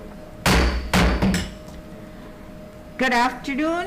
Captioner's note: gavel banging